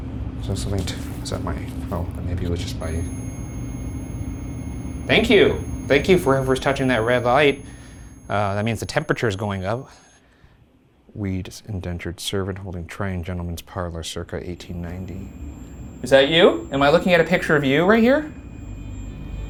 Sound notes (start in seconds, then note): 2.8 REM-Pod beeping; 14.4 REM-Pod beeping